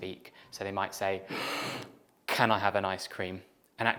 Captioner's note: inhales